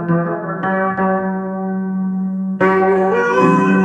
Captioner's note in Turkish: İnliyor ve çığlık atıp feryat ediyor